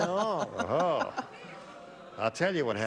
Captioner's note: laughter